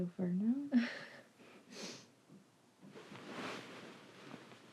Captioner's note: Kimberly giggles